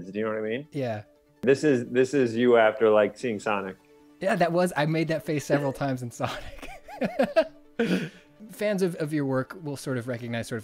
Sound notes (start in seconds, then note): 5.4 laughs